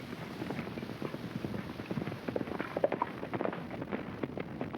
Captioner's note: hooves clopping